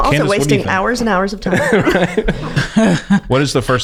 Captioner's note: laughs